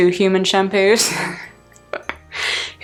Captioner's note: laughing